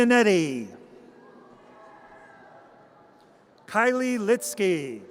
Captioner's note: audience cheers